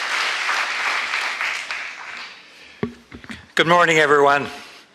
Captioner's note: applause